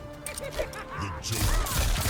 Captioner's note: Joker laughing